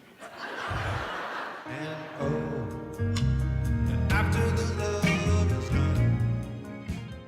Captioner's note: laughter